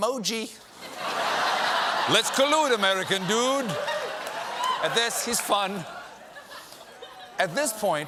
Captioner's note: laughter